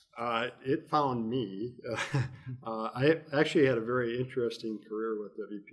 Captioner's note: chuckles